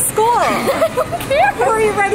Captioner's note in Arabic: يضحك